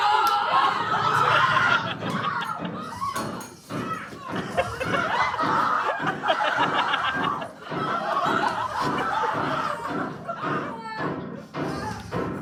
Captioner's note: screaming